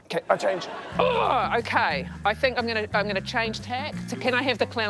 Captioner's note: groans